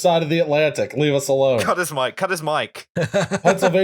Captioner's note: laughter